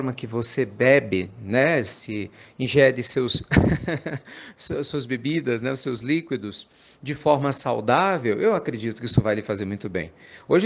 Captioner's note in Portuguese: risadas